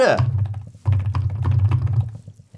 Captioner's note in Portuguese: Tap tap tap